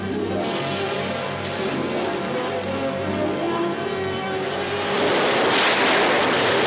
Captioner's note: suspenseful music; splashing; flamethrower roars; guns fire